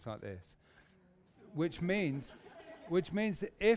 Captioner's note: laughter